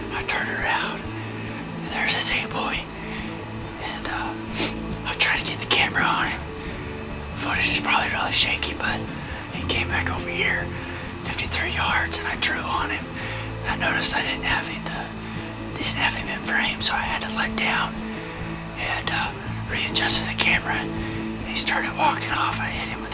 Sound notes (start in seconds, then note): 13.7 whispering